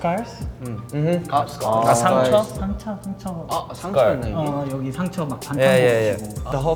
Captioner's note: speaking in Korean